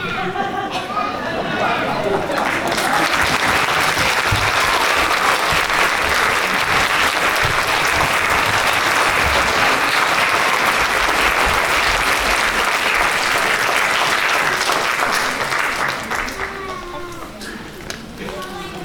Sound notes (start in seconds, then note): 2.0 applause